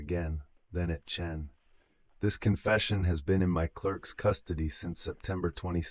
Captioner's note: breath